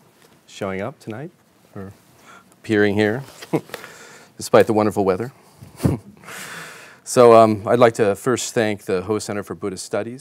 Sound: chuckles

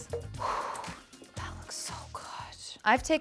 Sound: whispers

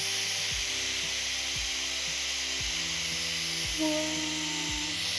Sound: machine whirring

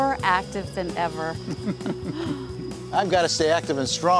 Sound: laughs

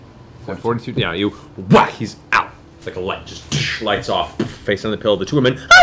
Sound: whack

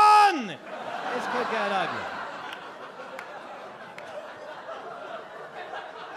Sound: audience laugh

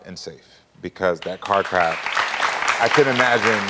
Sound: audience clapping

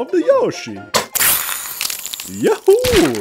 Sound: acid sizzling

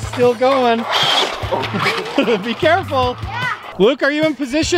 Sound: laughs

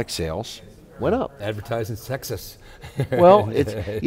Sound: laughs

